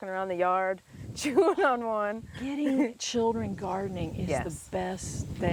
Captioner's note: laughs